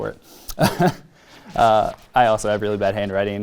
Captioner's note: laughs